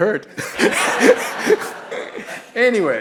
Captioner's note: all laughing